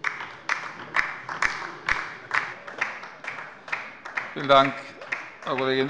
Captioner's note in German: Beifall bei der LINKEN